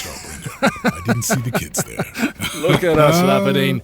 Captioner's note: laughing